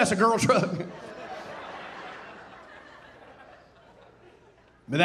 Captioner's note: audience laughing